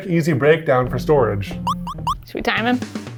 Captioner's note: graphic beep